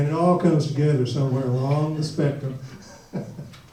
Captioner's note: laughs